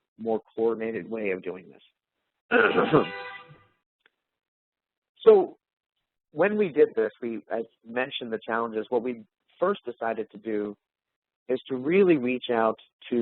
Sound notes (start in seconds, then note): 2.5 clears throat